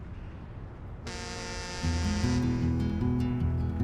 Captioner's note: horn blaring; gentle guitar music